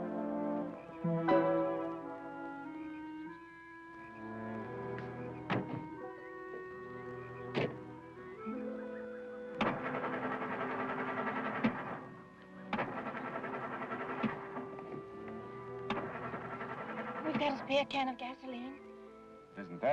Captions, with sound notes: (engine puttering) - We've got a spare can of gasoline.